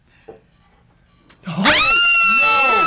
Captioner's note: screaming